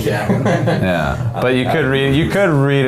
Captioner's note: men laughing